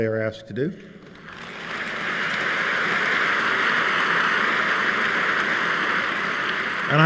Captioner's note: applause